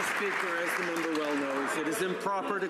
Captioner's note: some Applause